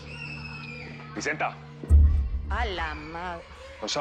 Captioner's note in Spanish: Bullicio de los niños